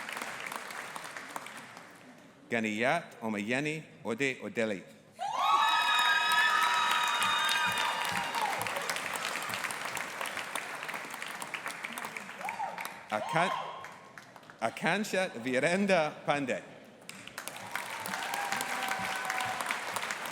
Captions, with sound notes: Ganiyat Omoyeni Odedele. (AUDIENCE APPLAUDING AND CHEERING) Akansha Virendra Pandey. (AUDIENCE APPLAUDING)